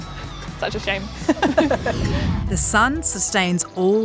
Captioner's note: laughs